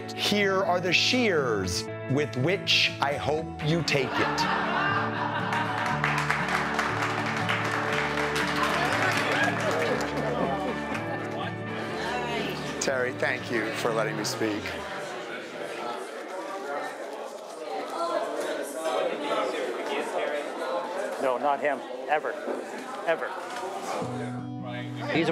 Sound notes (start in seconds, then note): 4.0 laughing; 5.4 clapping